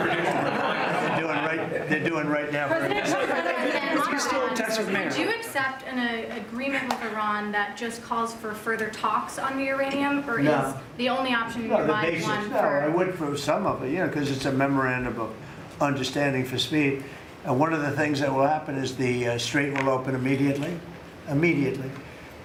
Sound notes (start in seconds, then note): 4.6 laughter